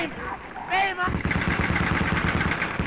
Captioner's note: firing continues